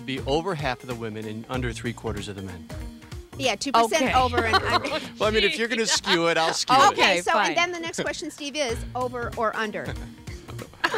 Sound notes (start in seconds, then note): 4.1 laughing; 10.4 group laughing